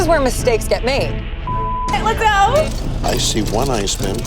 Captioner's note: beep